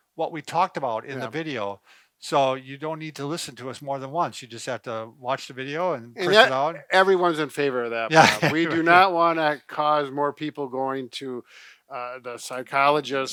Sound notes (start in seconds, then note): 8.1 laughs